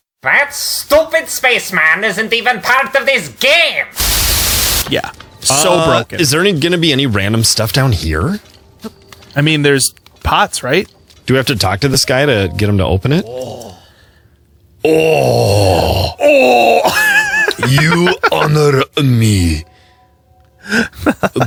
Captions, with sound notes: That stupid space man isn't even part of this game! Yeah So, broken Is there gonna be any random stuff down here? I mean there's pots, right? Do I have to talk to this guy to get him to open it? [NPC makes Scottish-esk grunt sound] [Both try to immitate the grunt sound] [Laughs] You honor me